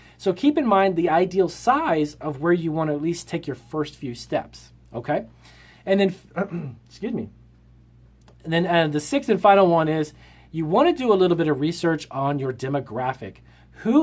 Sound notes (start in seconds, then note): 6.3 clears throat